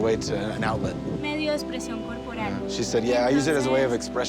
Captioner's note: speaking Spanish